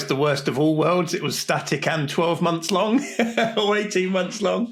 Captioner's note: laughs